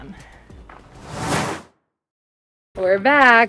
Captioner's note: air whooshing